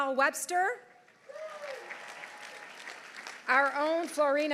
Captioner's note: audience applauding; audience cheering